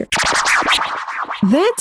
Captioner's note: electronic sound effects